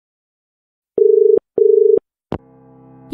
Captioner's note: dial tone